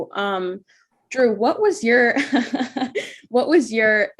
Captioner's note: laughs